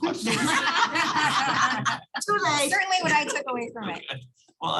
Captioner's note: laughter